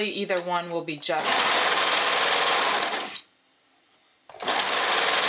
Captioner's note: sewing machine whirring